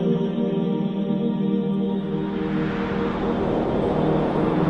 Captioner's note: calm music; wind blows